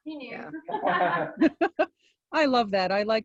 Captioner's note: laughter